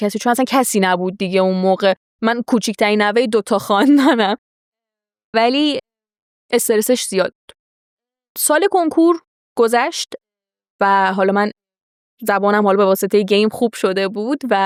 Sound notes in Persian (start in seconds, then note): 3.8 خنده